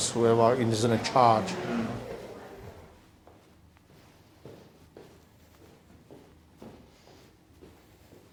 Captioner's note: footsteps can be heard going down the corridor past the volunteer hub